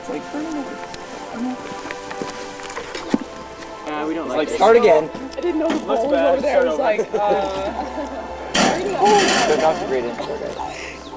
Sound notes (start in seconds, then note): 5.6 indistinct background chatter